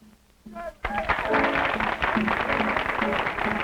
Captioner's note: applause